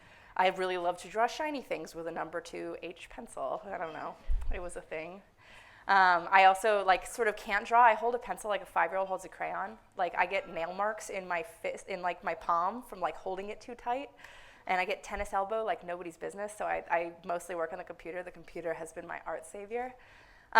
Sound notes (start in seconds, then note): none